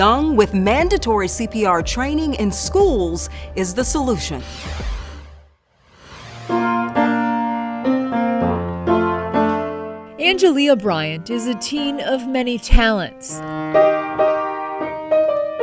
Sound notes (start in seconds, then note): 4.4 logo whooshing; 6.4 piano music